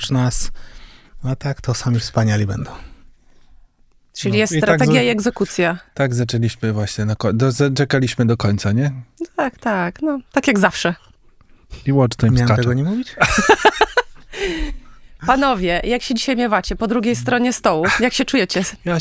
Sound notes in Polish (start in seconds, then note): 13.1 śmiech